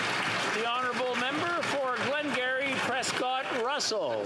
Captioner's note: some Applause